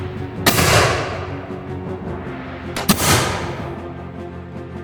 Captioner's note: gunshot cracking continues